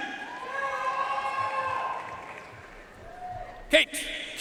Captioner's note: audience cheering and applauding